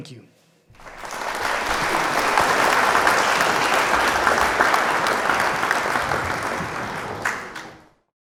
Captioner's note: applause